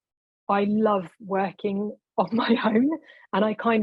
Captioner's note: laughing